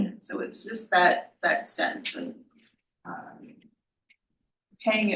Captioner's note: none